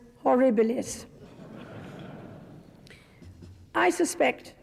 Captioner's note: crowd chuckling